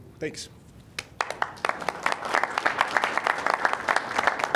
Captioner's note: audience applauding